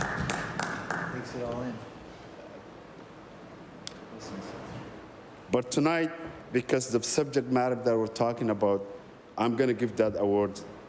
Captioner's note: applause